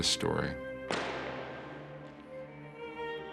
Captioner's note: gun shot